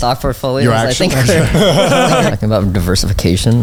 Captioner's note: all laughing